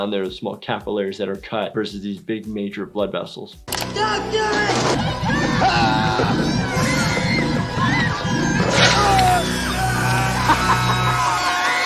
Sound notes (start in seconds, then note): 5.0 screaming; 6.8 evil chuckling